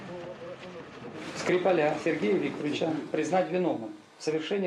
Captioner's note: speaking Russian